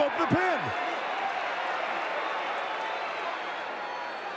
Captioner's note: audience cheering